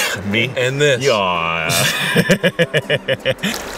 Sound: laughter

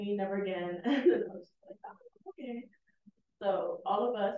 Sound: chuckles

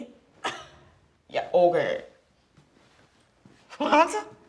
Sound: scoffs

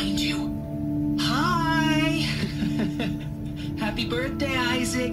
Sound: laughs

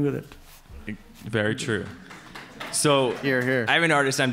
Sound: audience applauds

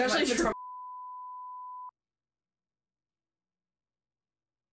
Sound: monitor beeping

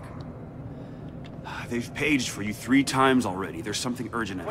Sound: irritated sigh

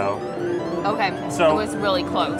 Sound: machine bleeps

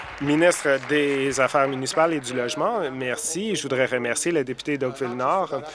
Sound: some Applause

